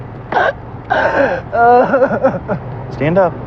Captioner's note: cryryining